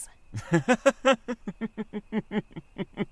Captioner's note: laughs